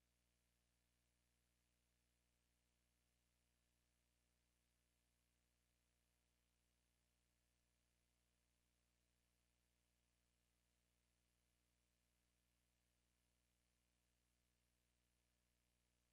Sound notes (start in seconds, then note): none